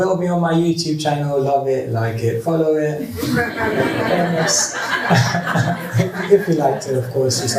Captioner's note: laughter